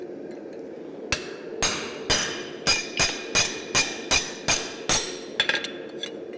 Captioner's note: sharp metallic hammering